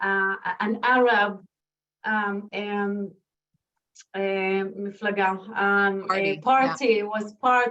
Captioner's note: non-english speech